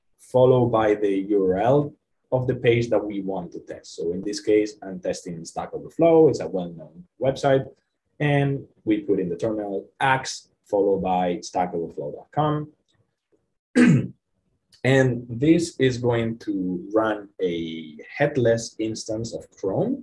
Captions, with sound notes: follow by the URL of the page that we want to test. So in this case, I'm testing in stack overflow, it's a well known website, and we put in the terminal act followed by stack overflow.com. (clears throat) And this is going to run a headless instance of Chrome